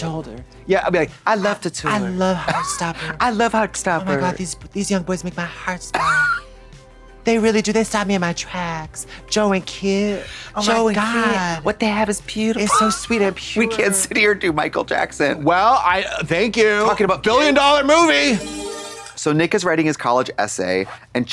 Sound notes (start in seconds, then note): 18.2 bright chime